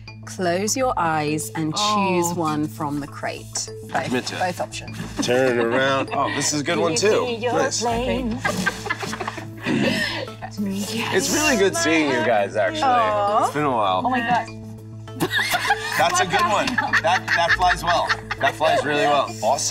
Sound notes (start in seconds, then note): 8.1 Gugu and Úrsula laugh; 15.1 Gugu and Yun Jee laugh